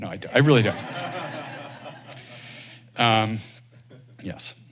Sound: laughter

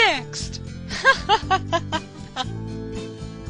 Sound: laughs

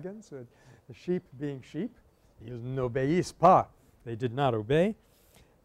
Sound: French

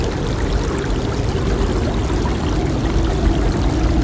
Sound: water flowing

